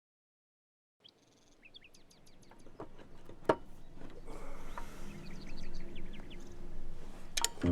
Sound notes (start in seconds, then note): 1.0 birds chirping; 2.4 clacking